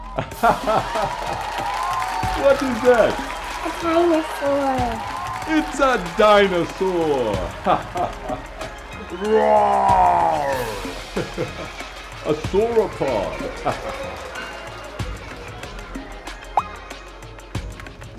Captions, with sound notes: [laughter] What is that? A dinosaur! It's a dinosaur! [laughter] Rooooar! A sauropod.